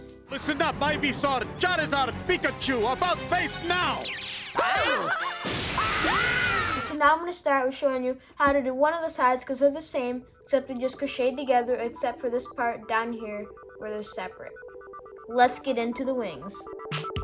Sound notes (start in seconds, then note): 3.6 characters shriek; 6.1 characters scream